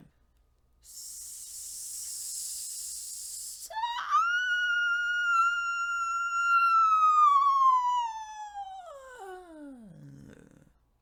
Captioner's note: hissing, sings whistle note